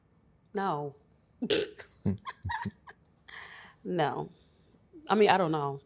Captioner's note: laughs